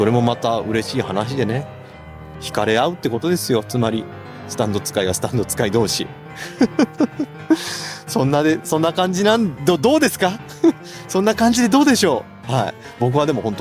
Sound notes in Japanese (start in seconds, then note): 6.4 笑い